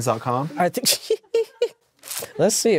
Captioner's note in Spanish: ríe